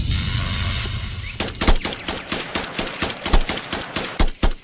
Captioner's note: explosion booms; gun blasting